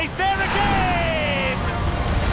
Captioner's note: Kart sound